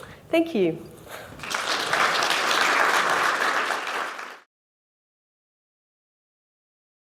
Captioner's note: applause